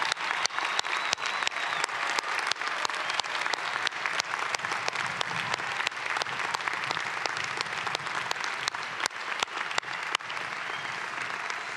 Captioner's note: cheering and applause